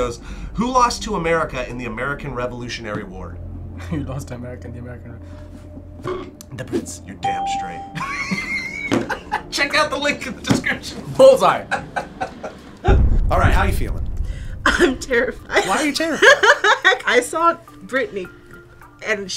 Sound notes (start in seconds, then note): 7.3 electronic bell chimes; 8.0 laughs; 11.7 laughs; 15.6 laughs